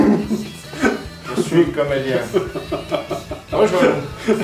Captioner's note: in a serious tone